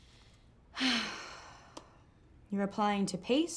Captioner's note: sighs